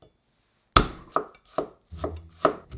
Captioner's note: knife smashing